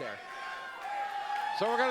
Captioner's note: audience cheering